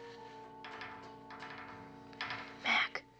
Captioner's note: metal rattling